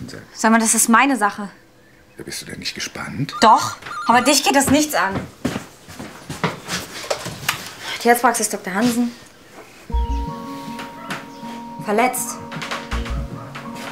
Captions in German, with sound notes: Das ist meine Sache! - Bist du denn nicht gespannt? Doch. Aber dich geht das nichts an! (Telefonklingeln) Tierarztpraxis Dr. Hansen. (Beunruhigende Musik) Verletzt?